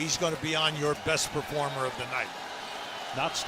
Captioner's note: cheers and applause